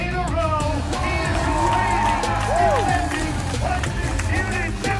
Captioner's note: crowd cheers